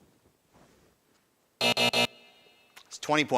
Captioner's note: buzzer buzzing